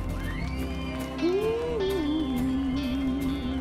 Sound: crowd whistles

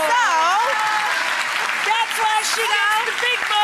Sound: audience applause

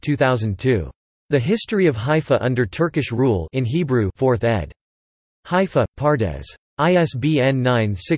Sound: in Hebrew

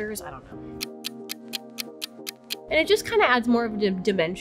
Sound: clock ticking

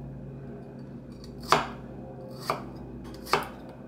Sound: chop...chop...chop

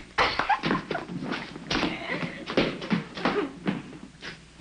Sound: giggling

